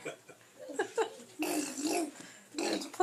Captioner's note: Gideon's parents giggle